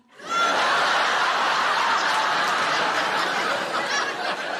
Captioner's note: audience laughing